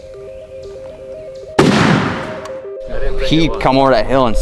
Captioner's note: gun roars